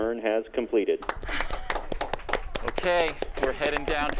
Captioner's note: applauding